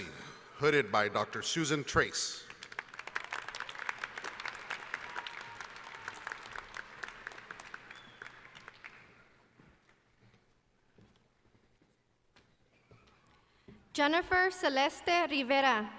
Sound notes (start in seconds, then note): 2.4 applause